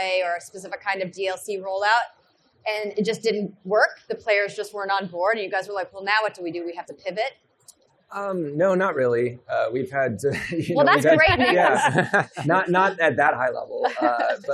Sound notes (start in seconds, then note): 8.2 chuckles